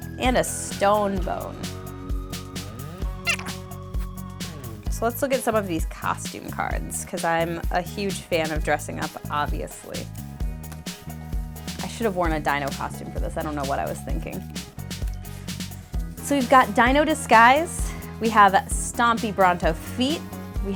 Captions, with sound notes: And, a Stone Bone. (squeaking) So, let's look at some of these costume cards, 'cause I'm a huge fan of dressing up, obviously. I should've worn a dino costume for this, I don't know what I was thinking. So, we've got Dino Disguise. We have Stompy Bronto Feet.